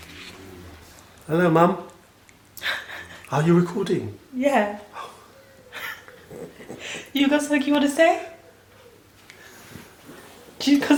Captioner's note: laughing